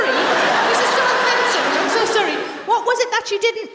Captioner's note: laughter